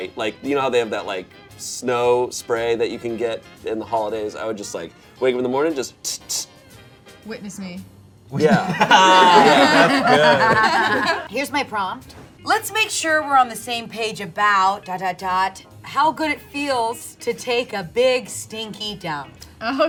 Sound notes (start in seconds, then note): 6.0 spray noises through mouth